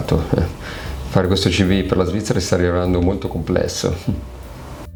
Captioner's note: laughter